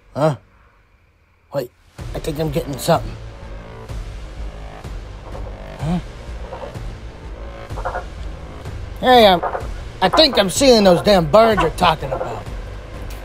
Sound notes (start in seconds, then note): 6.7 bird sounds